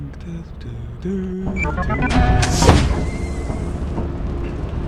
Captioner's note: continues with humming